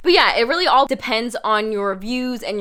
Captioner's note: none